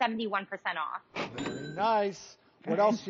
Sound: cash register dings

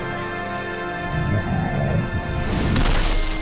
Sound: grunting

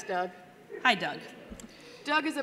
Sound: sighing

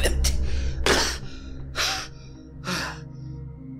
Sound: gasps

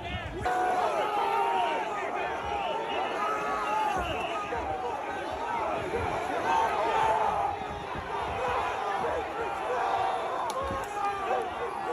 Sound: yelling

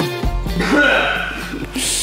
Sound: cough

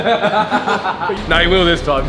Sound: lads laughing

